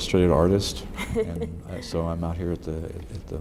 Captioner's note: laughs